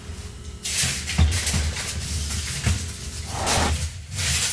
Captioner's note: foil rustling